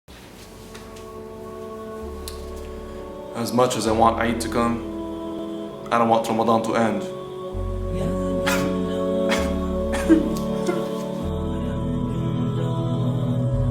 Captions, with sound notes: As much as I want eid to come I don't want Ramadan to end (cries stupidly)